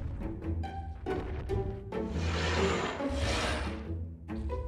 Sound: animals roaring

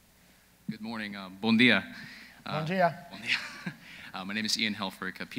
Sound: speaking in foreign language

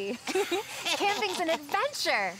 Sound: both laughing

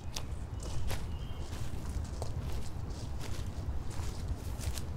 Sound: footsteps rustling

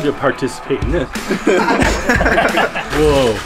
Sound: boys laughing

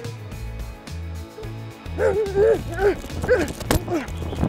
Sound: grunting

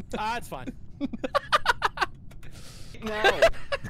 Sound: laughter

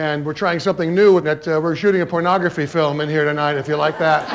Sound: laughter

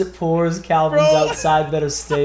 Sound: laugh

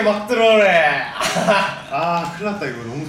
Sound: laughing

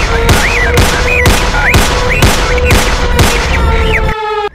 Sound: gunshots

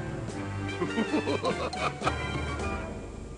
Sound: evil Laugh

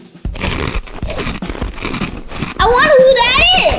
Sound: crunching

